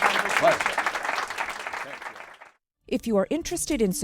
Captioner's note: applause